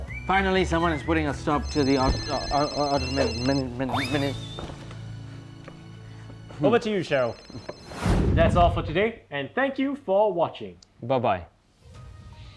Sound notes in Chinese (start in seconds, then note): 1.7 突发铃声